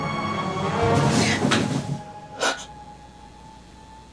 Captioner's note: dramatic music; gasping